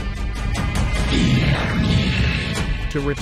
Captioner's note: demonic growling